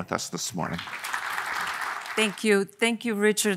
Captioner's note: audience applauding